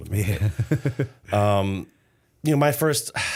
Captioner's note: laughter